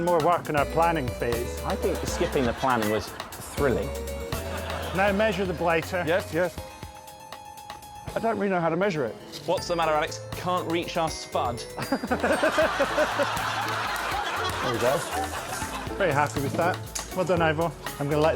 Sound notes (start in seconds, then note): 11.8 laughter